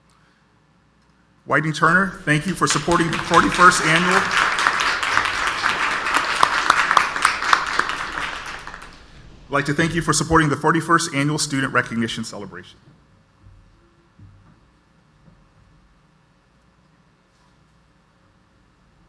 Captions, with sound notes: Whiting-Turner, thank you for supporting 41st Annual-- (audience applauds) I'd like to thank you for supporting the 41st Annual Student Recognition Celebration.